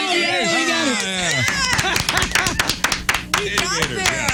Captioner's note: clapping